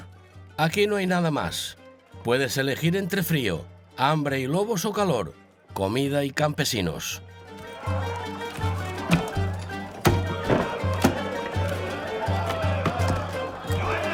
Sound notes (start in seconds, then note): 10.9 men laughing